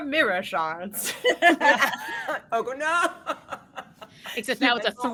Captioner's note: group laughing